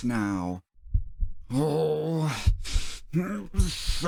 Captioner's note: heartbeats; heartbeats